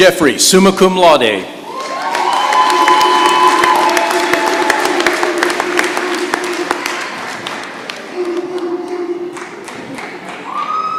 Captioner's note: cheering and applause